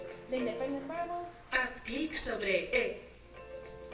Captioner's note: foreign language